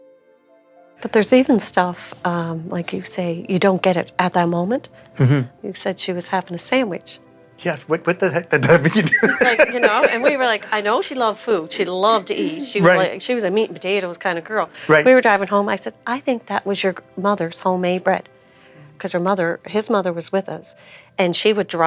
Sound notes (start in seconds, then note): 7.6 laughs